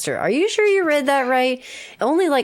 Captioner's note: none